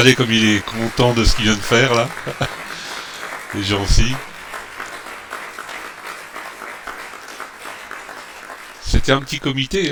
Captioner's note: applause